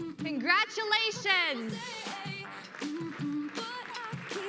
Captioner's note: applause